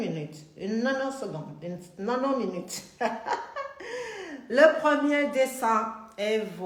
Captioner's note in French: Rires